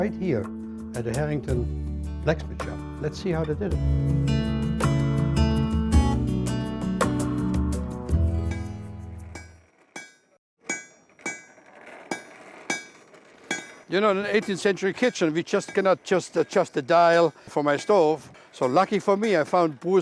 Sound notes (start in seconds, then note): 11.9 iron clanging